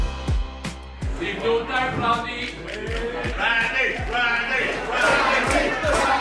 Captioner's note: crowd